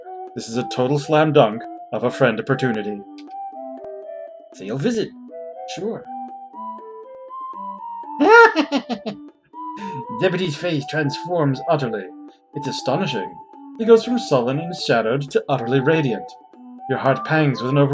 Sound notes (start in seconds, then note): 8.2 giggles delightedly